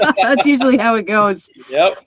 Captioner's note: laughter